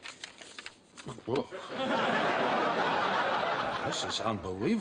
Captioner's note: audience laughing